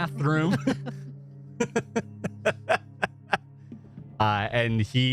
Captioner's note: laughter